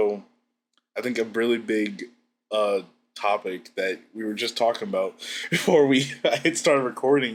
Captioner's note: laughs